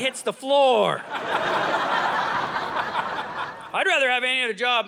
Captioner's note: audience laughing